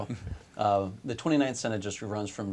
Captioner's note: chuckles